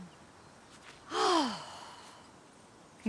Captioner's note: sighs